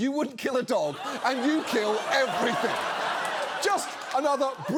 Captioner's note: audience laughs